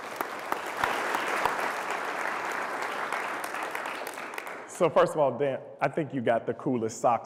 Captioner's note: applause